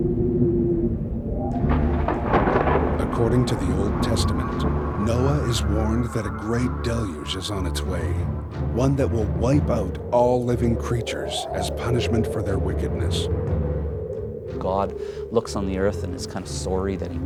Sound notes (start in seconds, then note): 2.0 thunder rumbling